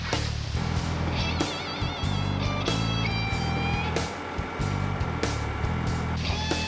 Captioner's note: truck bed elevating